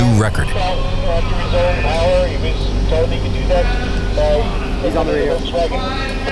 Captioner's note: radio chatter